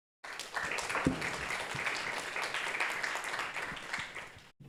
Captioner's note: audience applauding